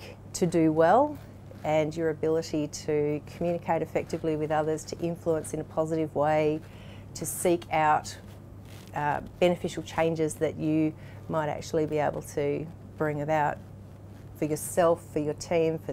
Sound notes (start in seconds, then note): none